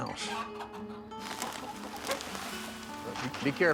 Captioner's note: chickens clucking; bag rustles